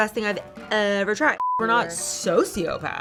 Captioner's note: beep